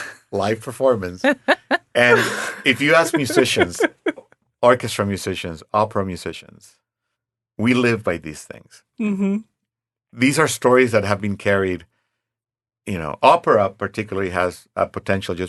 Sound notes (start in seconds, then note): 1.2 laughing